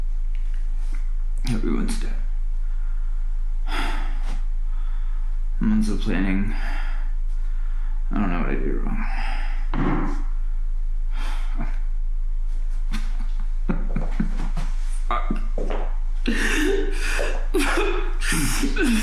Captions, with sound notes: Everyone's dead. Months of planning. I don't know what I did wrong. (knocking) (David laughs) Fuck. (slow footsteps)